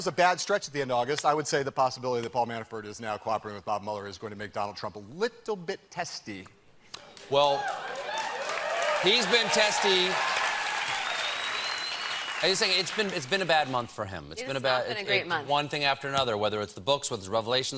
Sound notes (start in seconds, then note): 7.2 cheers and applause